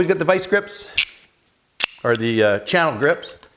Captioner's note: metal snapping